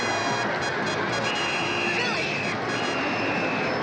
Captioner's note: referee blowing whistle